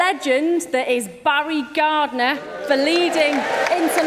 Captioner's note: cheering and applause